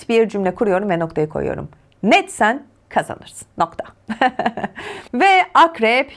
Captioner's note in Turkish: kahkaha